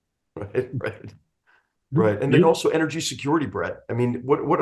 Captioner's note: laugh